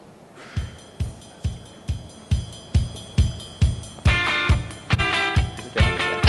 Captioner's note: laughter